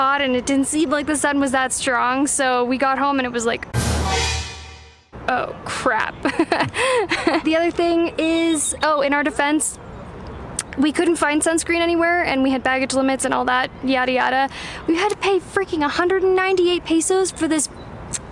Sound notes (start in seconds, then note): 3.7 dramatic stinger; 6.3 awkwardly laughs